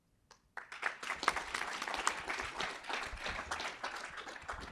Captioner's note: audience applauding